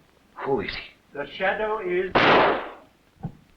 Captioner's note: gunshot